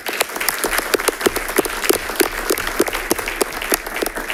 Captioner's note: audience applauding